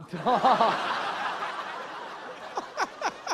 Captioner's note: laughter